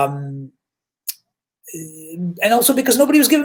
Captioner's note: smacks lips